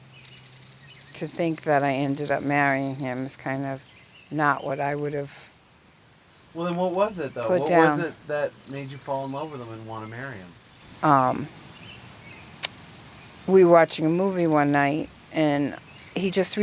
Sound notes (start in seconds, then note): 5.7 chuckling